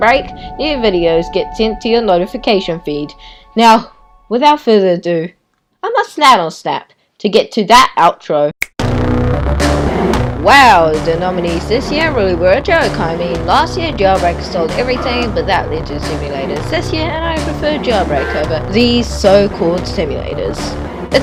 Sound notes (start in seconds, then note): 8.6 thanos snap